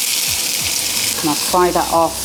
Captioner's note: sizzle